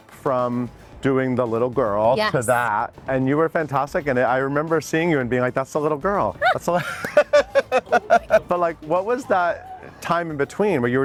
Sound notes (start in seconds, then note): 6.4 Lea laughing; 6.4 laughing